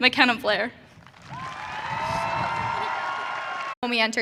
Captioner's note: audience cheering